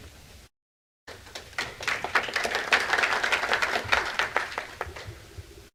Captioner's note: applause